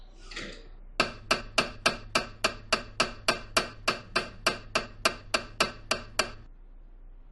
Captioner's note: MRI noises